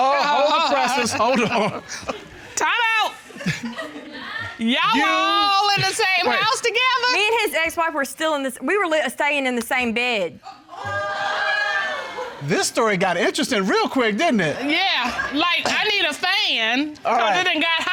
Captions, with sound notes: -Hold the presses, hold on. -[chuckles] -Time out. -[chuckles] Y'all were all in the same house together? Me and his ex-wife were still in this-- we were staying in the same bed. [audience exclaiming] This story got interesting real quick, didn't it? Yeah, like, I need a fan, 'cause it done got hot.